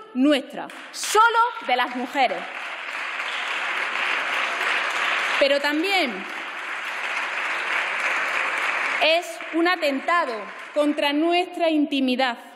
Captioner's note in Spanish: Aplausos